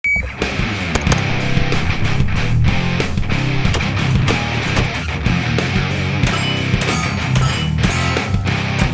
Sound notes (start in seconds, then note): 0.0 hard rock music; 0.9 guns bang; 3.2 gun bangs